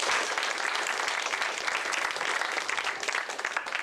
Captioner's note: applause